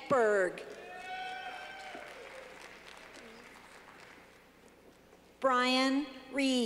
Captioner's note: clapping